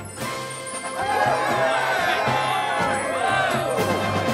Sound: cheering

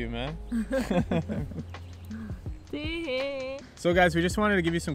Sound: laughs

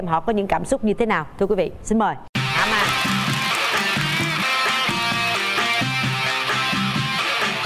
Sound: applause

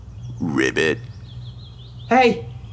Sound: toad croaks

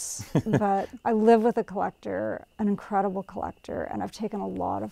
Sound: laughs

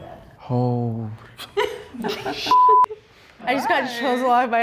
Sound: beep

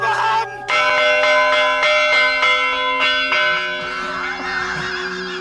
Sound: man shouting in foreign language; bell ringing intensely; strained laughter

